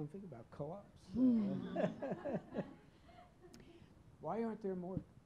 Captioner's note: chuckling